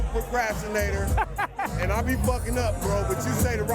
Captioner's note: laughing